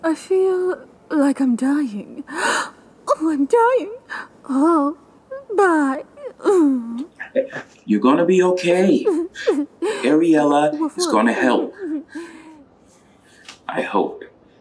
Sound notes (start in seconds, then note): 8.7 cries